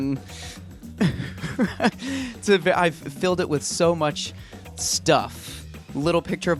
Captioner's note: laughs